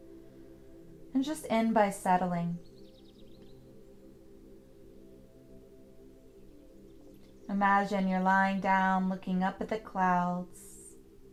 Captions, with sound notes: and just end by settling. (birds chirping) (gentle music) Imagine you're lying down looking up at the clouds,